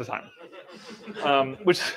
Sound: laughing

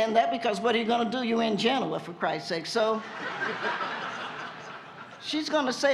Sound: laughter

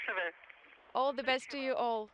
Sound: foreign language

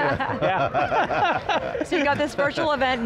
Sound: laughing

